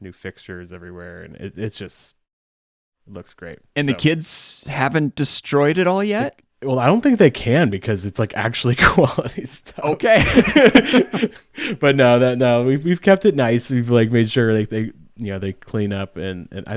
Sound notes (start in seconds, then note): 10.1 both laughing